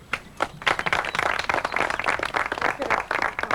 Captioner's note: applause